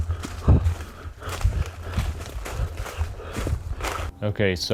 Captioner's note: breathing heavily